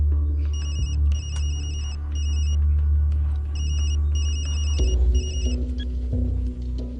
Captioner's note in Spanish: Suena el celular